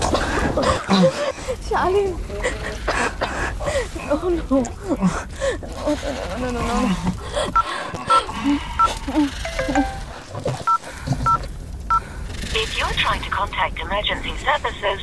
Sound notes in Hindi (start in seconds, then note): 4.7 स्नेहा रोते हुए; 8.6 स्नेहा के फ़ोन लगा ने की आवाज